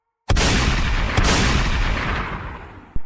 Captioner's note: gun fire sound